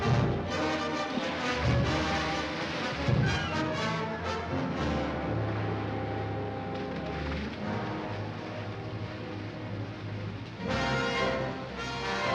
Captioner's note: suspenseful music; water splashes